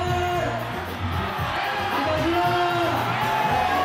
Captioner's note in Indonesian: sorak sorai